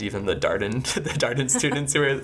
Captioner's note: laughing